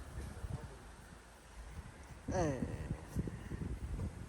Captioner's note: grunting